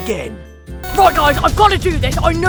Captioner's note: timer sound; intense music